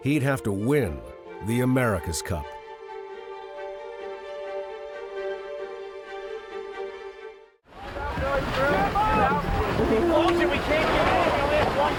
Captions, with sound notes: he'd have to win the America's Cup. (group shouting)